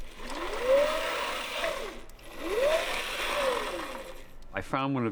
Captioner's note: whirring